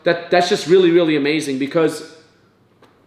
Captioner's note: none